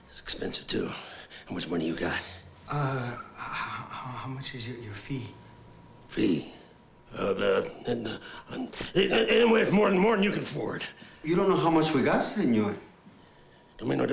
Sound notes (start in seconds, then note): 7.5 stammers